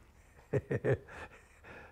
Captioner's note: laugh